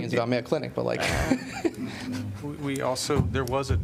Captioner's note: laughter